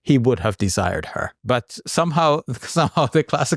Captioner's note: chuckles